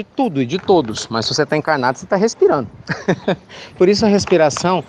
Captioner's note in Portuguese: Risos